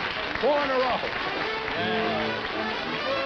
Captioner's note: applause